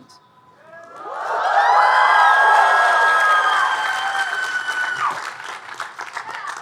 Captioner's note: audience cheering and applauding